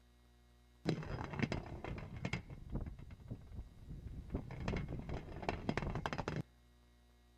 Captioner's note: rattling